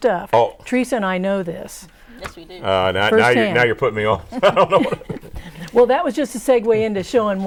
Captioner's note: laughing